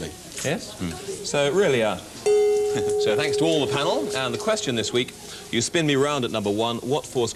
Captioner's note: gong of approval